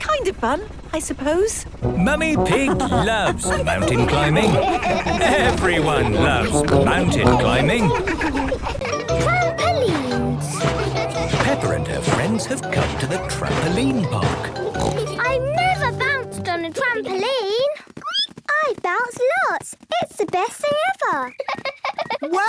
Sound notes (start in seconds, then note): 18.3 squeaks; 21.2 giggles